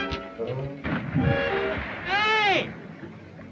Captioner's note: water splashing